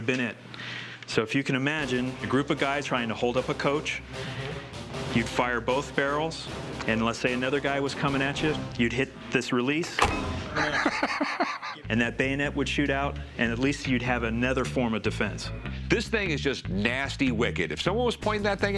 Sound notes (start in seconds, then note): 10.3 laughs